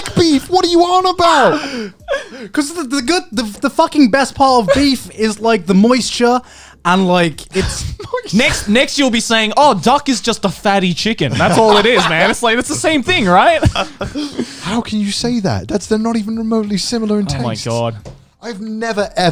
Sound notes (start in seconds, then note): 9.6 chuckling; 11.4 chuckling